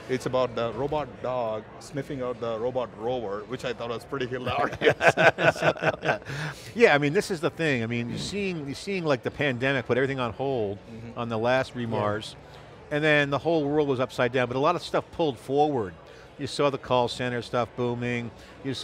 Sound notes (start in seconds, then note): 4.6 all laugh